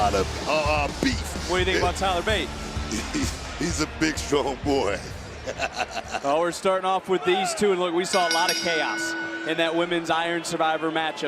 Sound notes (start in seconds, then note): 8.1 bell rings